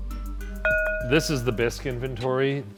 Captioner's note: bowl rings